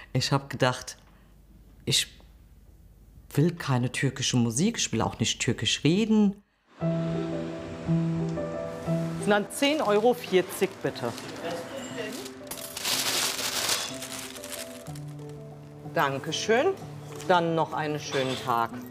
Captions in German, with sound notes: Ich habe gedacht, ich will keine türkische Musik. Ich will auch nicht Türkisch reden. (Nachdenkliche Klaviermusik) Sind dann 10 Euro 40, bitte. (Eine Papiertüte knistert.) Danke schön. Dann noch einen schönen Tag.